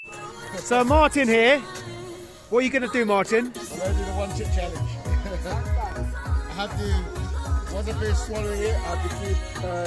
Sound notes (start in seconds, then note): 5.2 laughs 😂